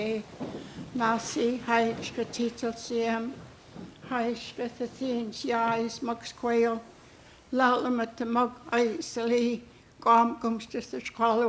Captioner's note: speaking Hul'q'umi'num